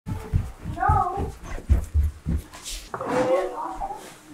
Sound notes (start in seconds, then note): 0.0 stomping down stairs